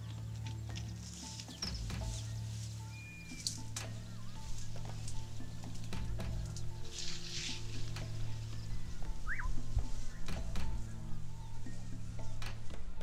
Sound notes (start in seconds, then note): 1.8 leaves rustling; 9.1 birds singing